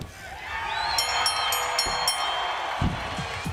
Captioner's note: bell ringing; crowd cheering